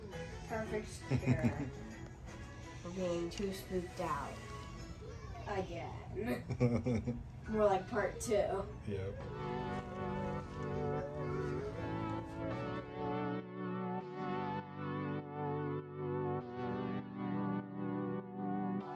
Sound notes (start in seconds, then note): 6.2 laughing